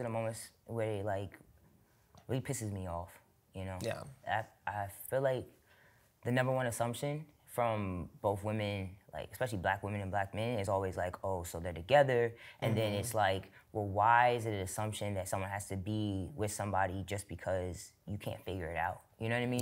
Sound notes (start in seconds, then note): none